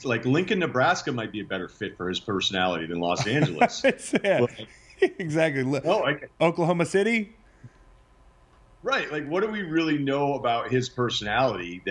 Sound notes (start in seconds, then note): 3.2 laughs